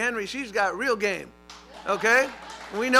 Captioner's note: applause